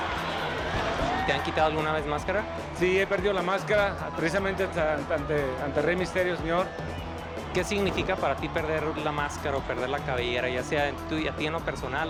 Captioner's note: conversation in Spanish